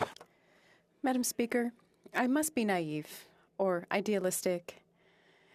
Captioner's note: speaking French